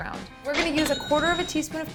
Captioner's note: cash register chimes